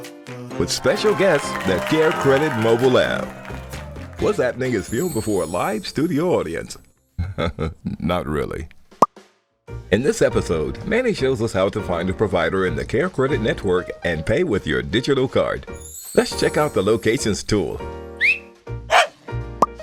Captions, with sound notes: [Audience applause] With special guest, the CareCredit Mobile App. “What’s Appening?” is filmed before a live studio audience. [laughing] Not really. In this episode, Manny shows us how to find a provider in the CareCredit Network and pay with your Digital Card. Let’s check out the Locations tool. [Whistles at Manny] [Manny barks]